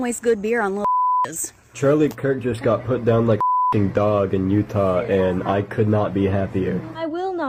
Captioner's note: beep; beep